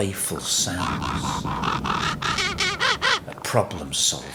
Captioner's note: raven calls echoing